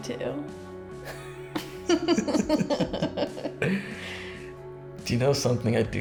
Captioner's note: both laughing